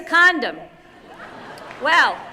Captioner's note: laughter